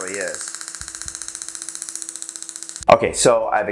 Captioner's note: device clicking